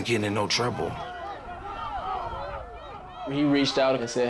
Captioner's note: team shouts